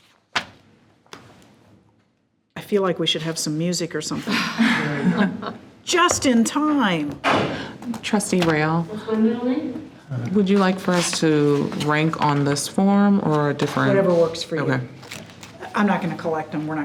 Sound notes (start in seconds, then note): 4.1 group laughs; 7.0 door closes